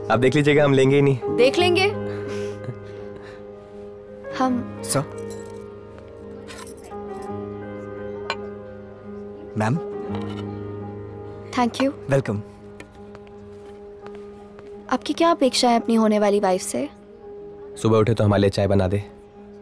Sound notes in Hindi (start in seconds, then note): none